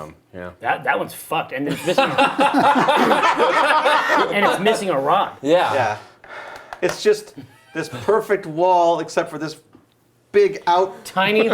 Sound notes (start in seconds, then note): 1.7 laughing